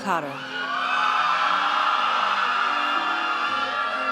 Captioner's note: audience cheers